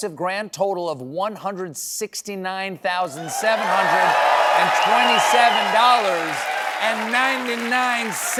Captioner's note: cheering